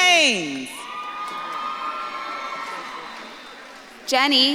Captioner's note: audience claps and cheers